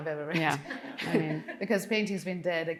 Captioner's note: audience laughing